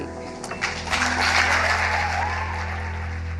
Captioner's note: applause